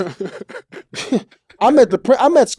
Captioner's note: laughing